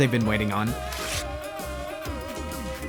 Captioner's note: rips